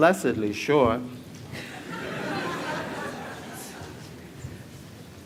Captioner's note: laughter